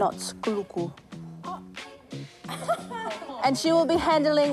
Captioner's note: girls scoff